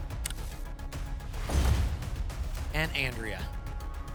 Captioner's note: thump; whoosh